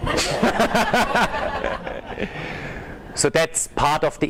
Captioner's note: laughing